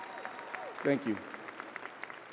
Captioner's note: audience applauding and cheering